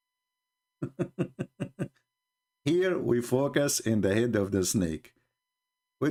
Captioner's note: Ketawa